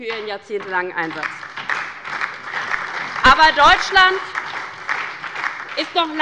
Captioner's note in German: Beifall bei der LINKEN und bei Abgeordneten des BÜNDNISSES 90/DIE GRÜNEN